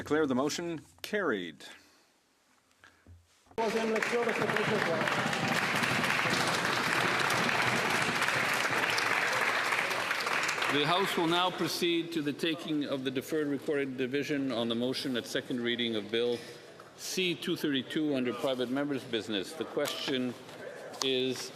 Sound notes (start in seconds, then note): 9.7 applause